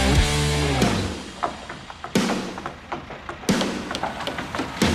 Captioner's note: hammers pounding